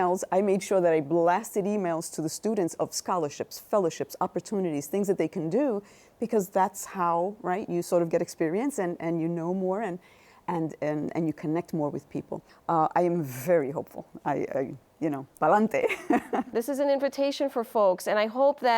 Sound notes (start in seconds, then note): 15.0 speaking Spanish; 15.8 chuckles